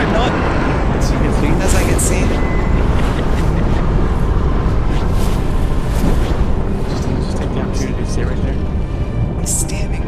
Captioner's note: laughter